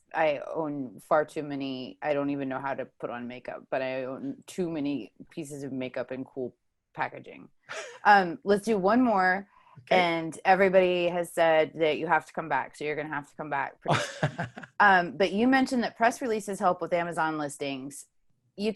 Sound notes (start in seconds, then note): 13.8 chuckles